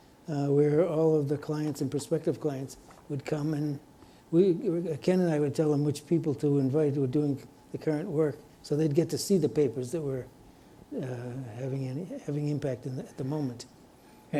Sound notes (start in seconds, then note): none